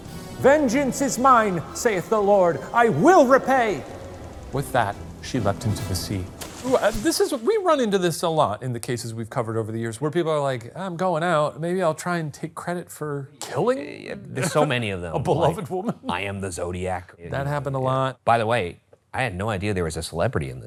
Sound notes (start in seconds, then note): 6.6 water splashing